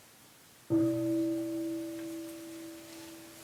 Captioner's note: bell rings gently